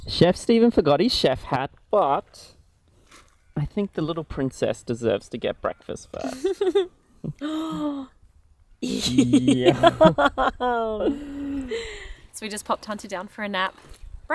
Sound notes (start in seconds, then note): 7.2 gasps and laughs